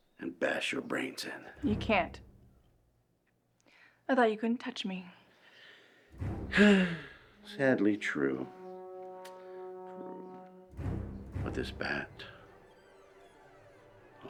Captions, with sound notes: and bash your brains in. - You can't. I thought you couldn't touch me. - (sighs) Sadly true. True. (suspenseful music) But this bat.